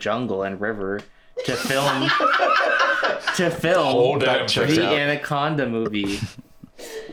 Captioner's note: laugh